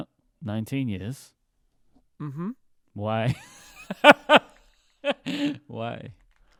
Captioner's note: laughing